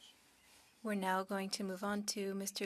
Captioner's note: speaking French